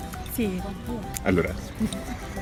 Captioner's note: speaks in foreign language